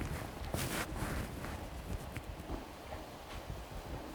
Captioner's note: quiet rustling